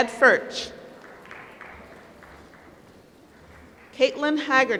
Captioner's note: applause